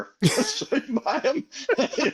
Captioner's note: laughing